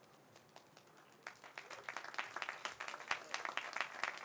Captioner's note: audience applauds